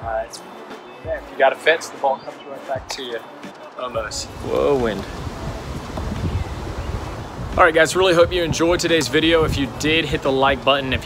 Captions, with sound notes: There, if you got a fence, the ball comes right back to you, almost. Whoa, wind. (wind whooshing) Alright guys, really hope you enjoyed today's video. If you did, hit the like button.